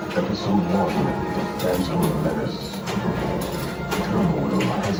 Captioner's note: pinball machine